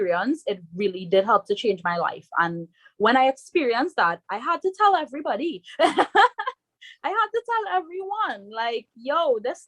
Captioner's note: rires